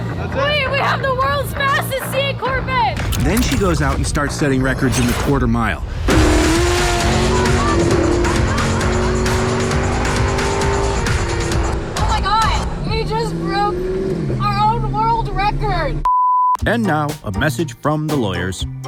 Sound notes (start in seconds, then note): 5.9 engine roaring